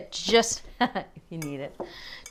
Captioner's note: laughs